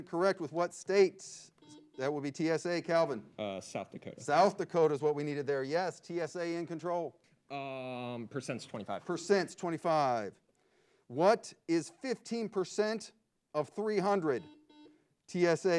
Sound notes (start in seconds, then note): 1.5 buzzer beeps; 14.1 buzzer beeps